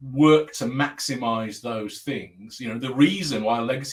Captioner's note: abbreviated speech